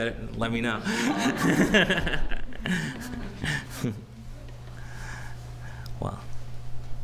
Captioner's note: laughs